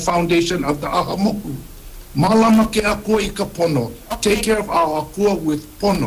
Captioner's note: speaks Hawaiian